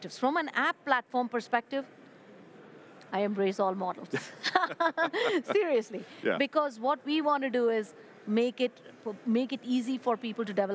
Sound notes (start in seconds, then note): 4.2 laughs